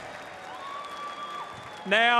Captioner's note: applause